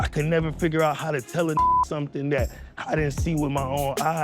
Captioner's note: beep